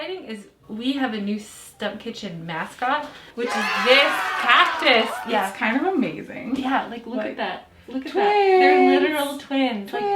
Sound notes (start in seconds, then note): 3.4 cheering